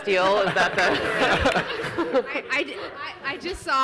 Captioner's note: audience laughs